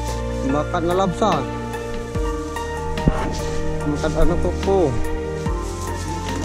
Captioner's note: man speaking in foreign language